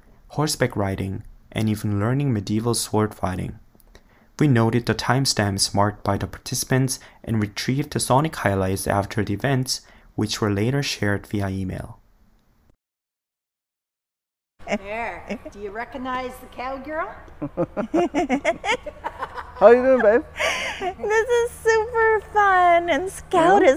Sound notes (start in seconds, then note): 17.4 laughter